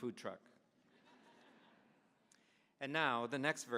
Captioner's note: audience laughing